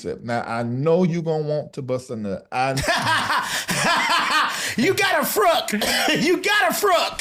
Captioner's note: laughs